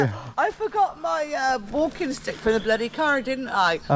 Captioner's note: laughs